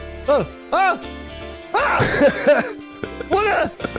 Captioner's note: laughs